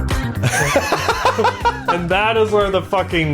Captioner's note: laughs